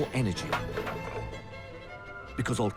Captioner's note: balls and cans clatter